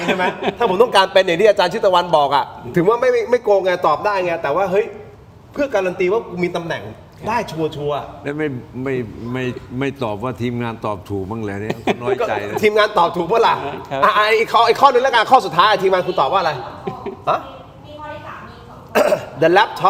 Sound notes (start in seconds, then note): 0.0 laughs; 11.6 laughs; 18.9 clears throat